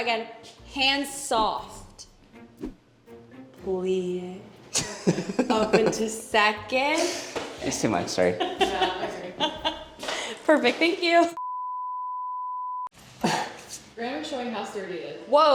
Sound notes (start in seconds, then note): 4.7 laughing; 10.2 laughing; 11.5 monitor beeping